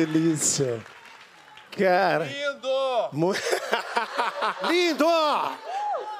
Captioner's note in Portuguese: aplausos